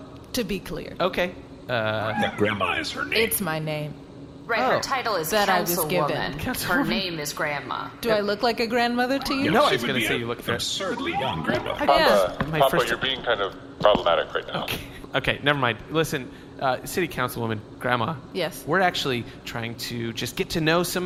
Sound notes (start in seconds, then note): 1.8 in his Explain-A-Thing-To-Pleck tone; 6.9 quietly, wheezing a little